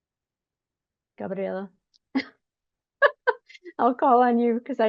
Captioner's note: laughs